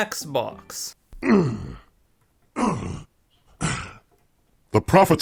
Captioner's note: pathetic grunting climbing noises